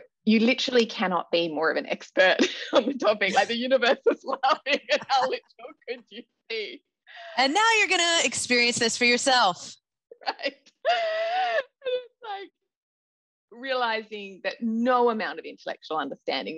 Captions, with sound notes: You literally cannot be more of an expert on the topic, like the universe is laughing (laughter drowns out speaker) how could you be. - And now you're going to experience this for yourself. - Right? (laughs) And it's like, realizing that no amount of intellectual understanding,